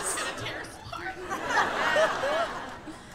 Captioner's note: laughter